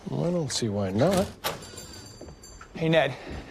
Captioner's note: door chimes jingling